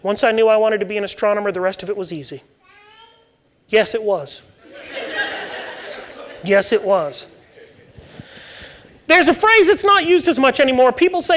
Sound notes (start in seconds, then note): 4.6 audience laughing